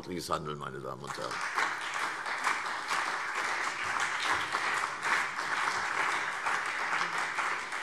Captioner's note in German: Beifall CDU und BÜNDNIS 90/DIE GRÜNEN